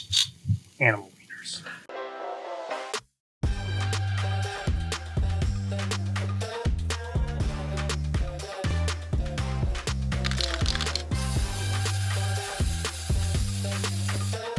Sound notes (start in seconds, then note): 0.2 tongs click; 2.4 upbeat music; 10.2 spray paint can rattles; 11.8 paint spraying